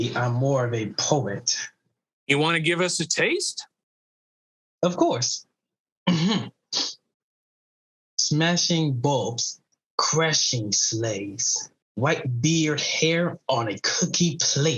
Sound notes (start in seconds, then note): 6.1 clears throat